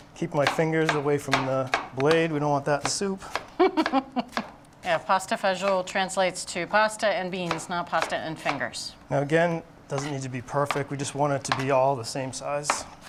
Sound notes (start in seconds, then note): 3.6 laughs